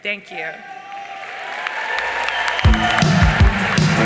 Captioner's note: audience cheering and applauding